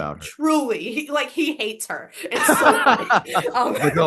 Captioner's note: Professor Greenlight laughs